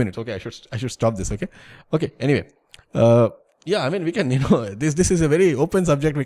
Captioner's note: laughter